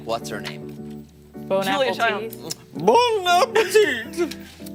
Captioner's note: laughter